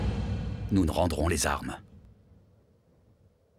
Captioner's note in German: Stimme liest die Notiz vor